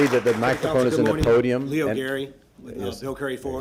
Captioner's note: applause